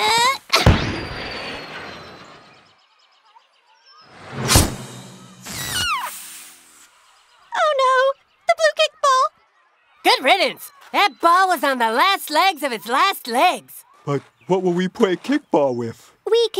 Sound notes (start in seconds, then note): 1.1 whooshing; 4.8 squealing